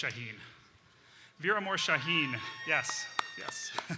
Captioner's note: audience cheering